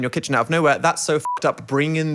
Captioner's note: beeping